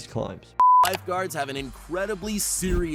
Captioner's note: screen beeps